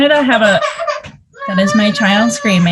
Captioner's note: baby crying